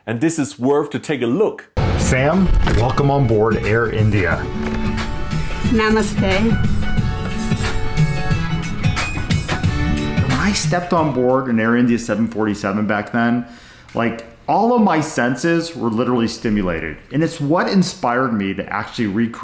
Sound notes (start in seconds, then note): 4.9 gentle music; 5.9 speaking foreign language; 8.9 gentle music